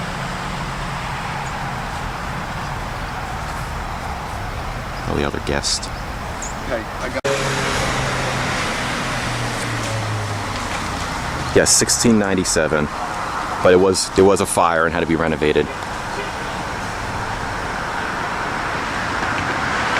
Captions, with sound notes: (Traffic Noises) (Whispering) All the other guests. (Louder Traffic Noises) Yes, 1697. But it was, there was a fire and had to be renovated. (Car Horn)